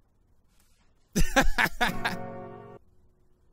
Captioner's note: Pewds' laughs